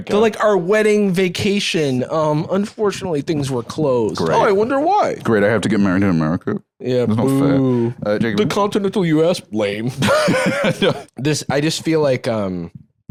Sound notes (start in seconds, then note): 9.9 laughs